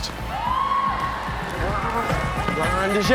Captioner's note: onlookers cheering